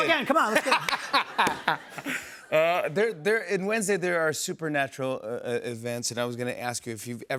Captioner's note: laughs